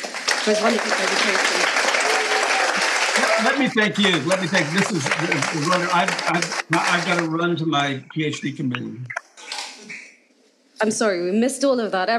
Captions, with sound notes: for a wonderful presentation. (audience cheering) - Lemme thank you. Lemme thank this is, I've gotta run to my PhD committee. - I'm sorry we missed all of that.